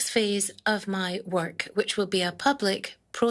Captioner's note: speaking in French